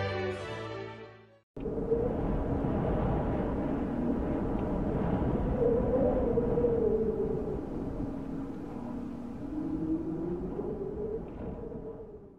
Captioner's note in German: Wind